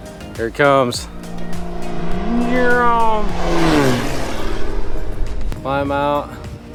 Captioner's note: plane whizzing